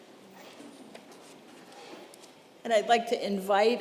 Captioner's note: congregation rustling